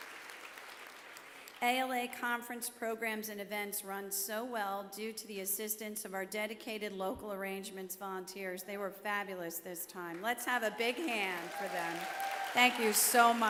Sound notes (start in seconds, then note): 2.1 applause